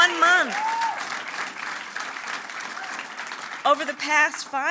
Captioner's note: applause